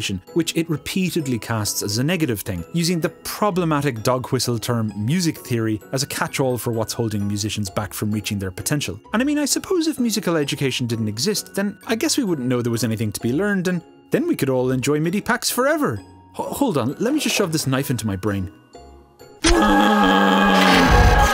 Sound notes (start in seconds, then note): 19.4 unholy screeches of the damned